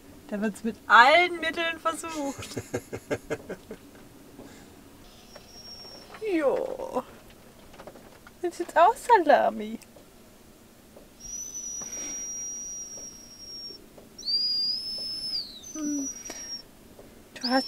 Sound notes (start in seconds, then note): 5.1 Caesar is whimpering; 11.1 Caesar continues whimpering